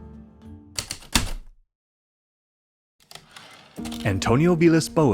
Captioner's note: heavy typewriter keystrokes, typewriter return slide